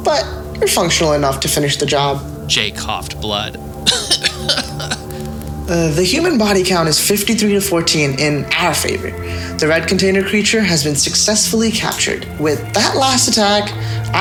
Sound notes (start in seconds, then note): 3.8 Agent J coughing